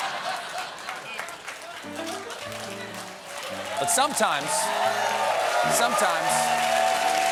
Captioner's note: cheers and applause